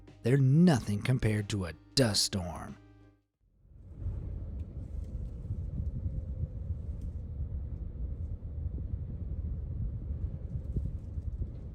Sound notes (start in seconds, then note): 3.9 wind gusting